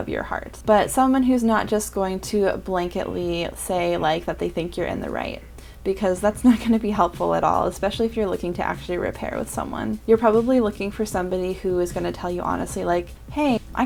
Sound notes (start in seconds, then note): none